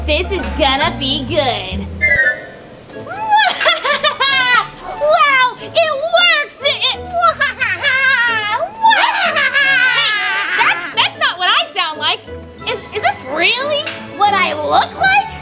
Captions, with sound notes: This is gonna be good. (laughing) Wow! It worked. (both laughing) - Hey, that's not what I sound like. Is this really, what I look like?